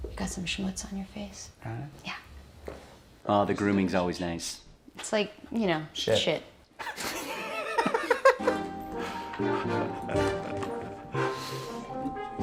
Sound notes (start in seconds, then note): 6.8 everyone laughing